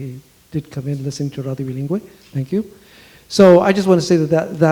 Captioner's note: speaks foreign language